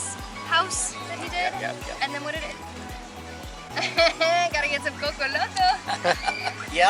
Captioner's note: laughter